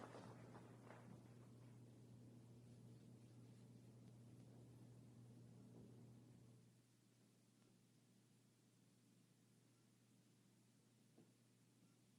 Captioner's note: applause